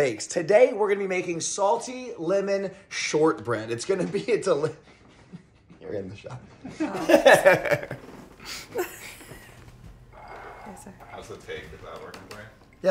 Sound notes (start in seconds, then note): 7.6 laughs